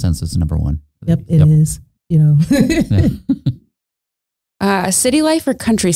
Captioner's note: laughing